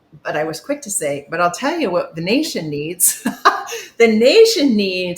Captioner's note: chuckles